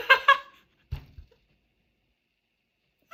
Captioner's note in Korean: 웃음